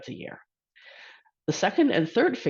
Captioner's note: exhales